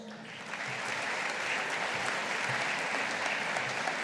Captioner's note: audience applauding